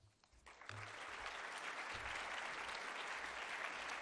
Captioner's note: applause